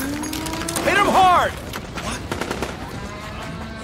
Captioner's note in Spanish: Mugidos de vaca